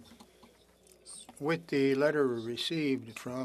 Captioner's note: speaking‘ç French